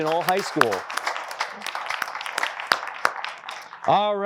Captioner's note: applause